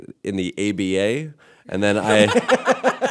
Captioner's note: laughter